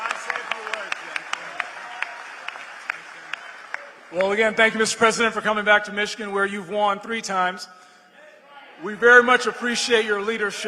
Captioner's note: applause